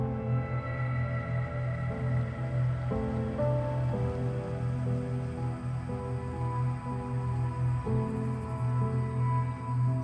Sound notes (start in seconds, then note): 2.0 cicadas chirping; 2.0 tense music